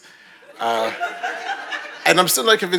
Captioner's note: audience laughing